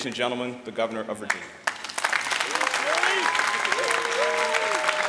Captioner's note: applause